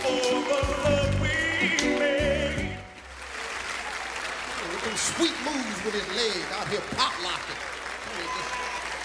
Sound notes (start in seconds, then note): 2.9 audience applauding